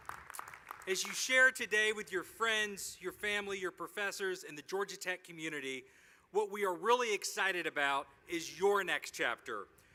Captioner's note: applause